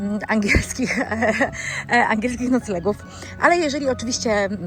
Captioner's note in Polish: śmiech